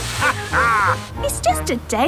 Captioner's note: captain dog laughs